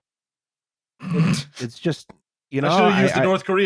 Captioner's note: snorts